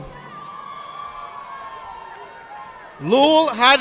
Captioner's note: audience applauding